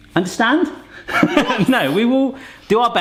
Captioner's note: laughs